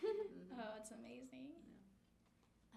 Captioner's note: laughing